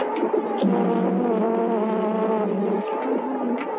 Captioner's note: bees buzzing